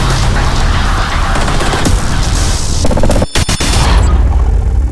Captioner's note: loud futuristic bang